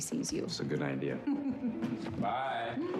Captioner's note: laughs